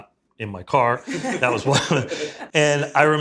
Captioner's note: laughs